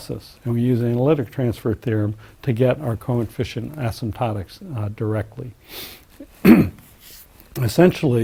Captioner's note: cough